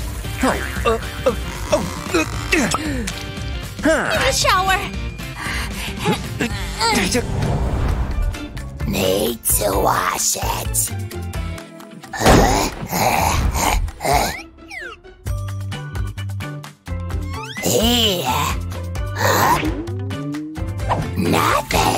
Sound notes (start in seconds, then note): 0.4 groans; 12.1 grumbles; 17.4 groans